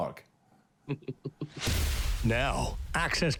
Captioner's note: chuckling